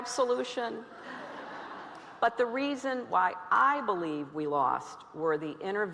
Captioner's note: laughter